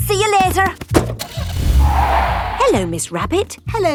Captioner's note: car starting; tires screeching